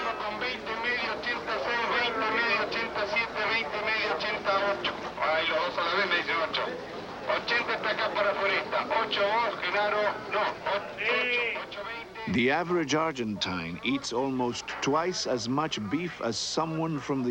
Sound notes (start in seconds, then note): 1.0 auctioneer calling out prices